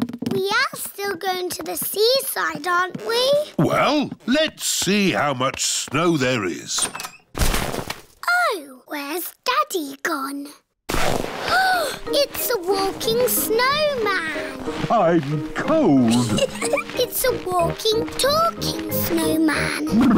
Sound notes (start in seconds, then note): 11.6 gasps; 16.0 laughs